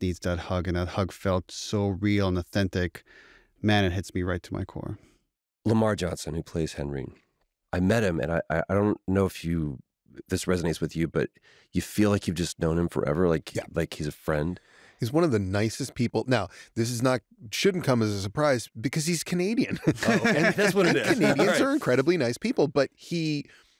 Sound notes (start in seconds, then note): 19.7 laughter